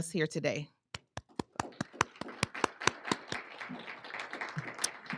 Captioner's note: applauding